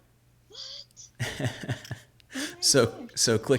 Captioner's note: laughing